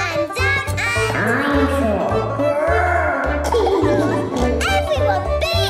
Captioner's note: laughing